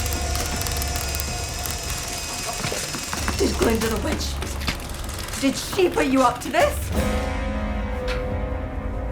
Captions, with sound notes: (drill whirring) (feet thudding) It's Glinda the witch. Did she put you up to this?